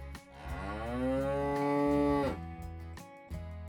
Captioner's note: cow Moo